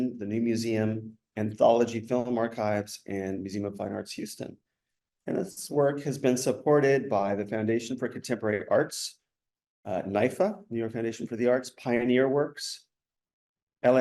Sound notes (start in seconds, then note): none